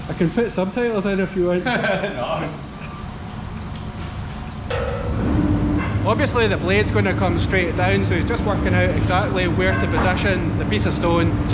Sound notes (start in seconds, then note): 2.4 laughs